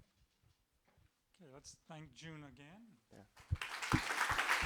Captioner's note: applause